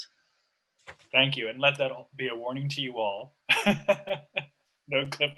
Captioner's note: laughs